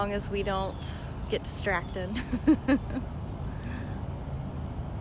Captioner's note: laughter